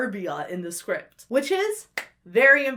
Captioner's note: claps